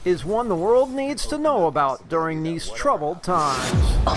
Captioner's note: air whooshes